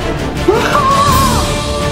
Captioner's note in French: Musique épic; Gémissement chelou de Norman; Musique épic